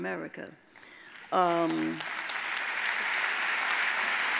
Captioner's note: audience applauds